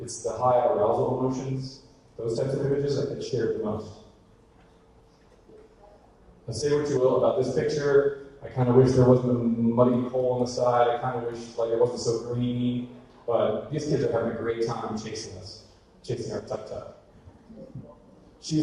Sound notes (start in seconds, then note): none